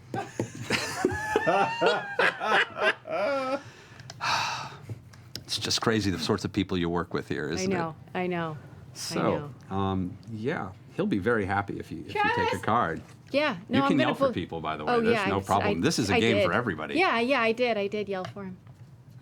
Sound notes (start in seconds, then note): 0.1 laughter; 3.1 sighs